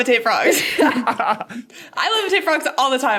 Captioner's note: group laughing